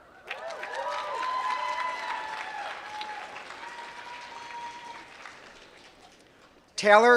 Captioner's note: applause